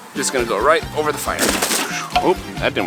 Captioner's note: foil crunches